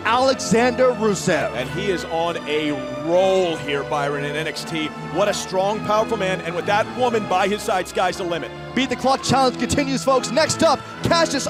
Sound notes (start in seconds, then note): none